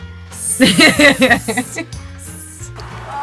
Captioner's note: both laugh